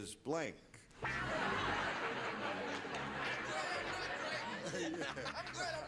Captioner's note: laughing